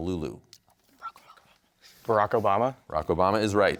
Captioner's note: whispering